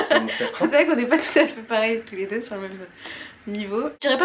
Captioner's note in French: rires